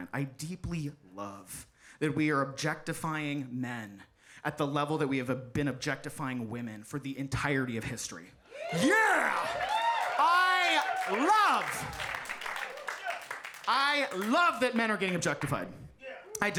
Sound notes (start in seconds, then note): 8.5 audience cheering